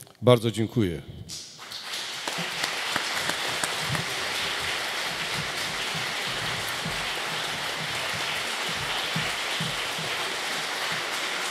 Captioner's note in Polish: oklaski